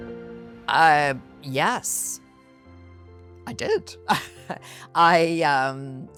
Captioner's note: rires